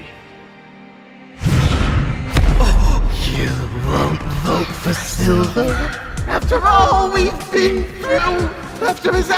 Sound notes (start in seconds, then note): 1.4 crash; 1.4 whoosh